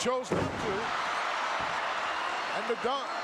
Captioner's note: crowd cheering